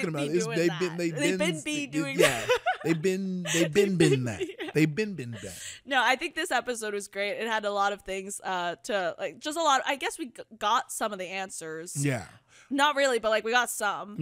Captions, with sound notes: - They'd been be doing that, - what are you talking about? - They've been be doing that (giggles) - They been, they been, been there. They been been there. - No, I think this episode was great. It had a lot of things to, just a lot, I guess we got some of the answers. - Yeah. - Not really, but like we got some.